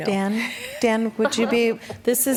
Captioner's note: laughter